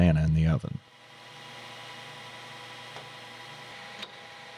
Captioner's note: machine whirring